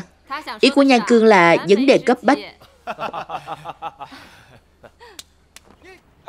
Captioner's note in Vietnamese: Tiếng cười